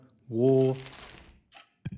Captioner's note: paper rustling